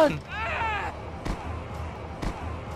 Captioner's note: screams; two thumps